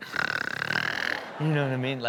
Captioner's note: snores; audience laughs